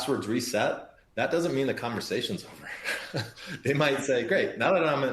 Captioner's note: laughs